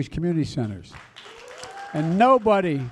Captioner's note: applause